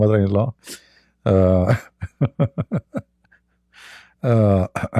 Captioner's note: Ketawa